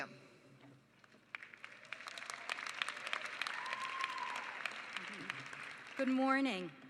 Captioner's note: applause